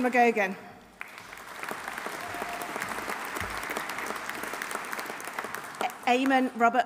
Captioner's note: audience applauding; audience cheering